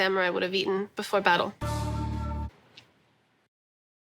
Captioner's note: gong